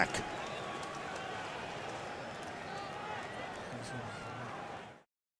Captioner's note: cheering